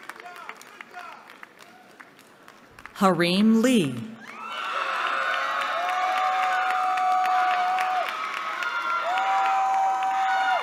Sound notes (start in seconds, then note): 4.2 cheering